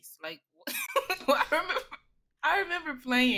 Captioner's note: laughs